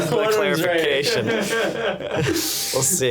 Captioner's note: laughing